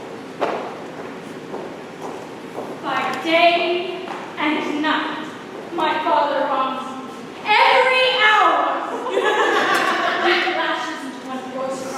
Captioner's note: footsteps; laughter